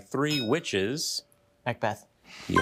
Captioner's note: bell dinging